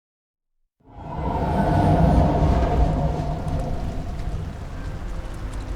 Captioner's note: train roars